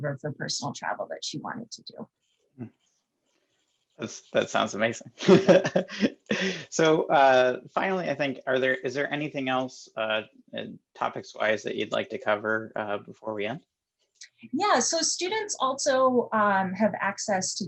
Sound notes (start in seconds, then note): 4.0 laughing